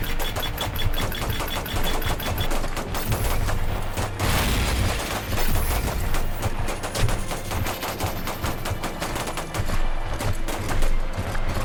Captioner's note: sounds of battle